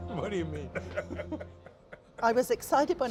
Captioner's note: laughing